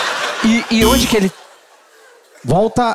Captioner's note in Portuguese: campainha